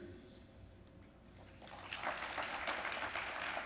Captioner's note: applause